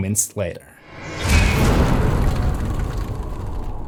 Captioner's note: impact